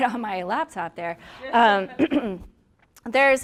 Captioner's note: clears throat